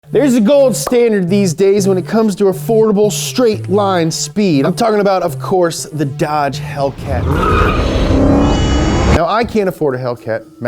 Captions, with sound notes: - There's a gold standard these days when it comes to affordable straight line speed. I'm talking about of course the Dodge Hellcat. (tires screeching) (engines roaring) Now I can't afford a Hellcat.